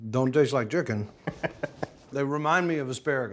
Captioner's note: laughing